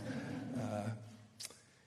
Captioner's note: laughter